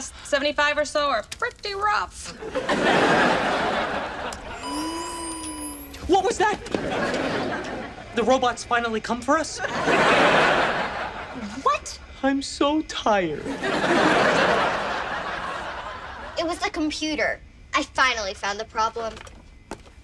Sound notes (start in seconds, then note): 2.3 audience laughs; 4.4 beep; 6.5 audience laughs; 13.4 audience laughs